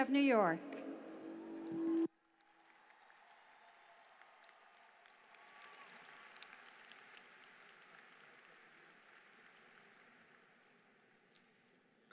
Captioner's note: applause